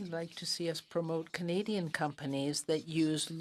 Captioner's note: speaking in French